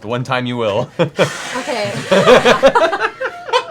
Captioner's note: hissing